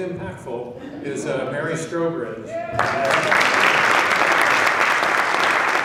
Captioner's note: laughing; applause